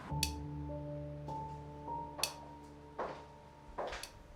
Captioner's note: ticking